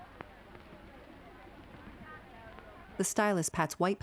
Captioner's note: people chattering indistinctly